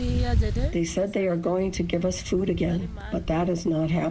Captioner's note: through translator